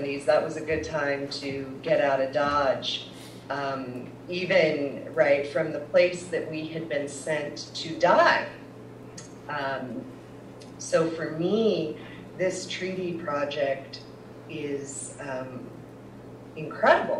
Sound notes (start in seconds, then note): none